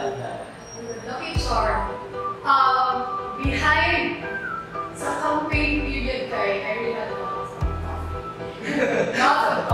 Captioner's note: hehehe